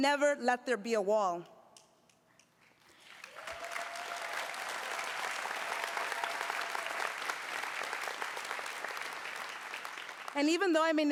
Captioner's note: applause